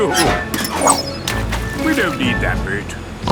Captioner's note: splashes